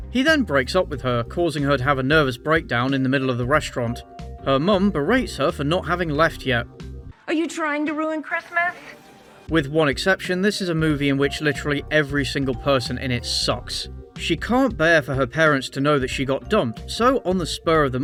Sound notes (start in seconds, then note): none